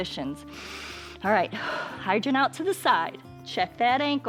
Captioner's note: inhales